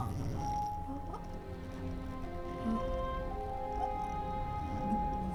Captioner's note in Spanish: quejidos